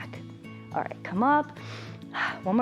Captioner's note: inhales and exhales